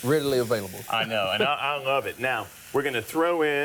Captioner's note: laughs